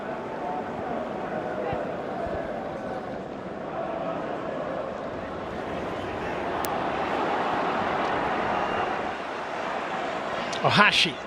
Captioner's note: audience oohs